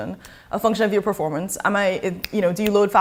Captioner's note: snaps fingers